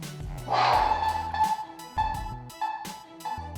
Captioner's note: alarm blaring